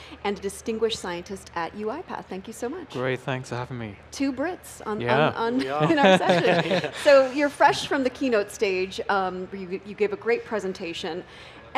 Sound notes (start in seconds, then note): 5.5 laughing